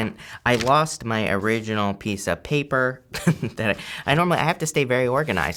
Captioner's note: chuckling